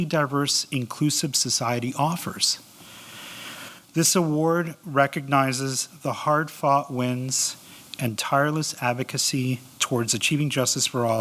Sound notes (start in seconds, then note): none